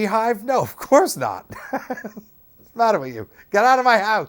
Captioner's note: laughs